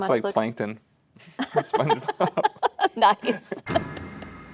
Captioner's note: both laughing